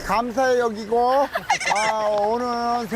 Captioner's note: hahahahaha